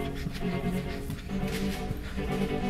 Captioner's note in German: Schweres Atmen